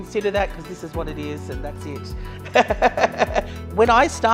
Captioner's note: laughs